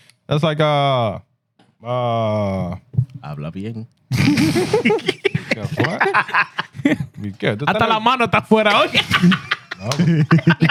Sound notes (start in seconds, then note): 3.1 speaking Spanish; 4.2 laughter; 7.2 speaking Spanish